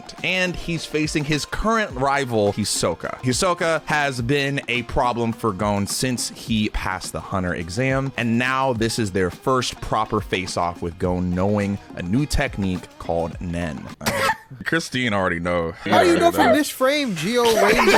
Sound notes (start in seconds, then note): 14.3 guffawing